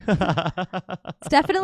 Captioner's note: laughing